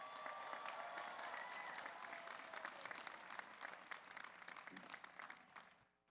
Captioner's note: audience cheers; audience applauds